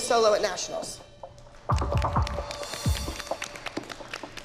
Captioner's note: applause